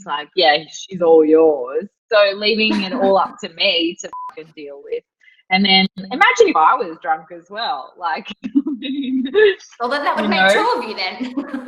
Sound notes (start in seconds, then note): 9.9 laughs